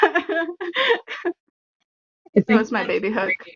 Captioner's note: laughter